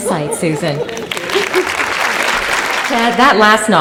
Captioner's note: applause